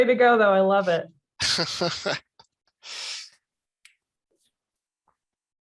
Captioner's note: chuckles